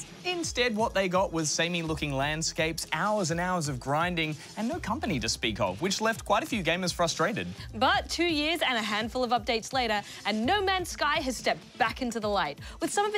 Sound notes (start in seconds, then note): none